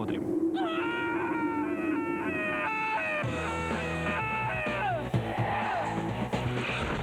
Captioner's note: scream